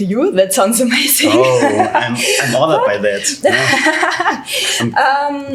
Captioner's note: laughs